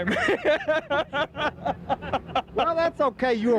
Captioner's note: laughing